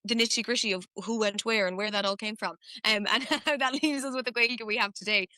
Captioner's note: laughs